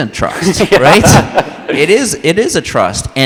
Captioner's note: all laugh